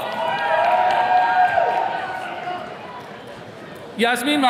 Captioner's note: attendees cheering